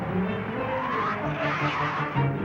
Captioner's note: growls